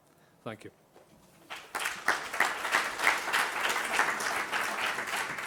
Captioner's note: applause